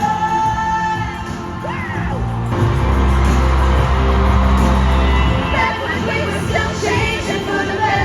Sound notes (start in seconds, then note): 1.8 screaming AGAIN